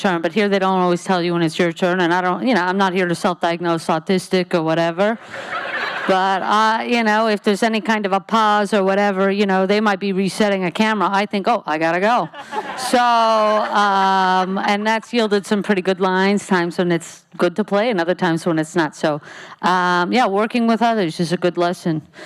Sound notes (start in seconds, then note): 5.2 audience laughs; 12.5 laughing